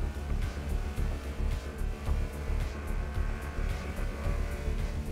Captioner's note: race car engine revving